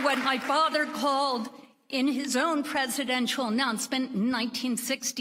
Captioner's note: applause